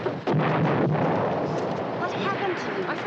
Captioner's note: explosion